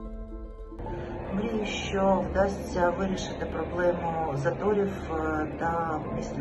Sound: speaking Ukrainian

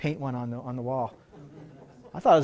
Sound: laughter

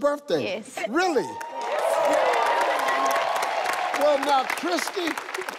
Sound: people applauding

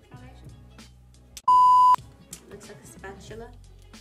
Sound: beep

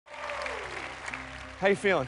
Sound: cheers and applause

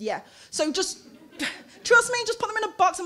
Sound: laughing

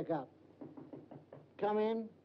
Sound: knocking on door

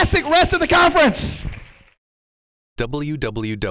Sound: applause

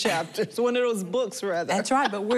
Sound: laughing

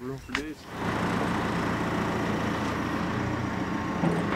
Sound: machine whirring

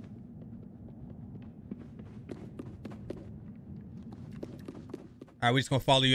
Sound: quick footsteps

